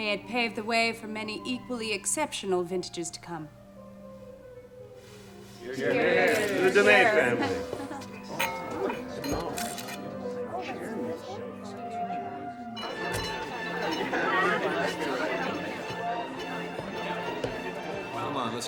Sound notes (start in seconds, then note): 8.8 glasses clinking; 9.5 camera shuttering; 13.7 classical music; 13.7 guests chattering